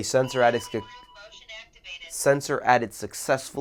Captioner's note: motion speaking